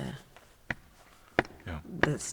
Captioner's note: taps foot